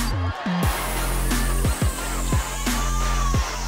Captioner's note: cheering